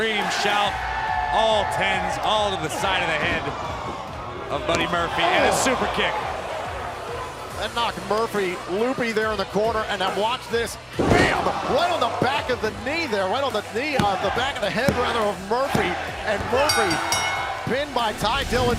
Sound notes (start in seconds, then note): 16.6 bell ringing